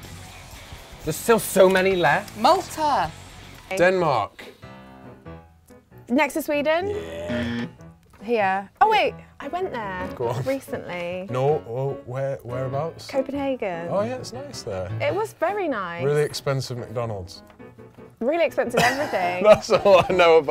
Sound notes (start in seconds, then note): 7.2 alarm